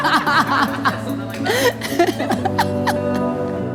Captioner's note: laughter